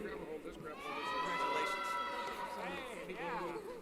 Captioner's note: cheering